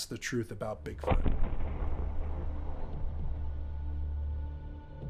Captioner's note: thunderous booming